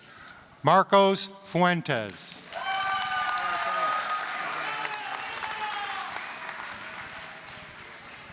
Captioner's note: applause, cheering